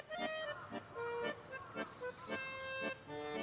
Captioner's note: crow cawing in the distance